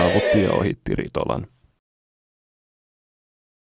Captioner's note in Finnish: hurrauksia